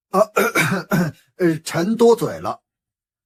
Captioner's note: cough